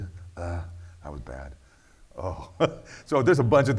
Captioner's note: laughs